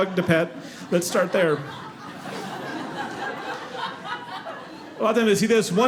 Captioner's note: audience laughing